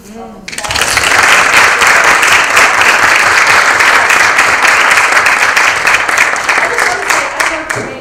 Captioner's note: applause